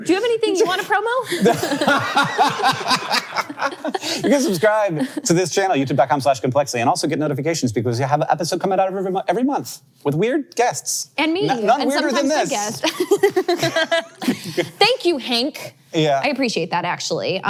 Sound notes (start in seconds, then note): 1.2 all laughing; 12.6 both laughs